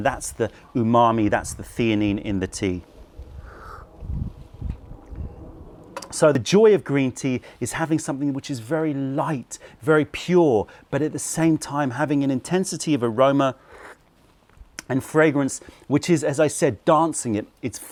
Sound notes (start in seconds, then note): 3.8 sips tea